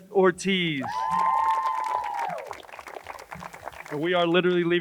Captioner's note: crowd cheers and applauds